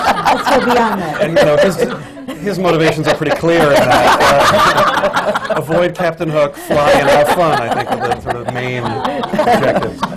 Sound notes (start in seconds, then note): 3.8 laughter